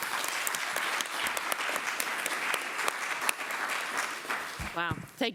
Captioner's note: applause